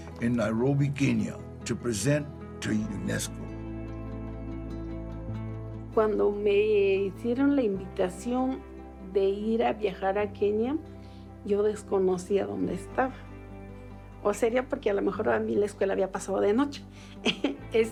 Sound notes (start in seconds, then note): 5.9 in Spanish; 17.2 laughs